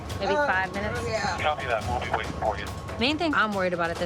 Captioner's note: man on radio